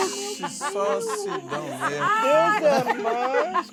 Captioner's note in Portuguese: gargalhadas